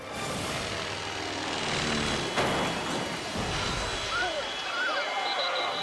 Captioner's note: aircraft humming and crushing